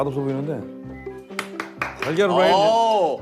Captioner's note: Tepuk tangan